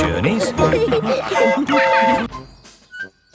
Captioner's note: train whistle toots